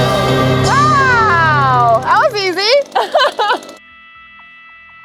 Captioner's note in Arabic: يضحك